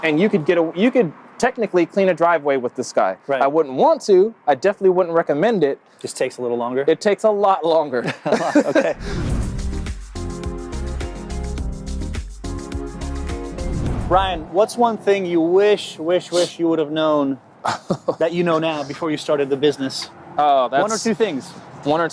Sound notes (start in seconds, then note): 8.0 laughs; 9.0 upbeat music